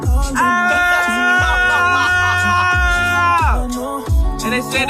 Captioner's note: screaming